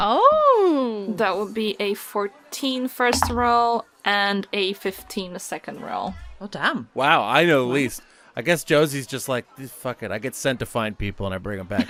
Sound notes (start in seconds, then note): 3.1 dice thunks